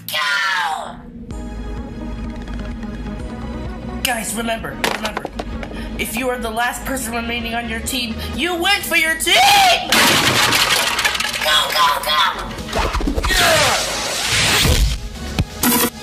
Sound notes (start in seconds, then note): 9.9 crash